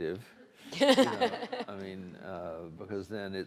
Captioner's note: audience laughs